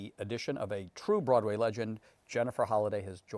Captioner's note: none